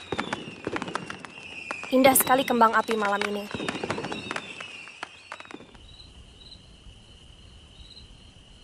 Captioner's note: applause; applause